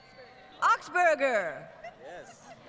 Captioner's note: laughs